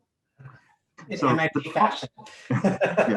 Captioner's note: laughter